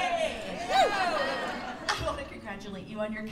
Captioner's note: laughter